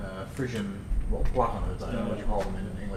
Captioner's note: non-english